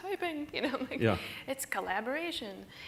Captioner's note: laughter